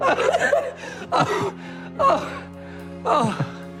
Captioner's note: snickers